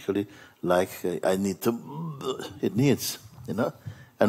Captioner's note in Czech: zvuk zvracení